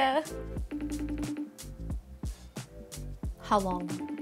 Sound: FaceTime ringing

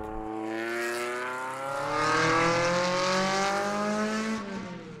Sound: car engine revving

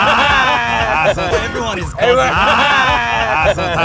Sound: moroccan banter

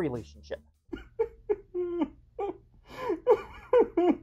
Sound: sobbing

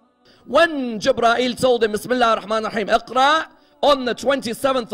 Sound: Arabic

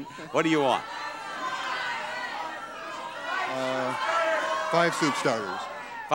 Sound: audience clamoring

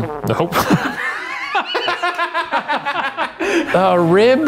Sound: trumpet falters; everyone laughs

